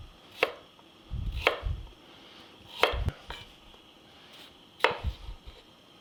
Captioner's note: chopping vegetable